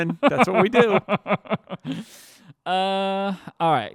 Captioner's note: laughing